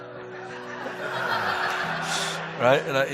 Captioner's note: audience laughing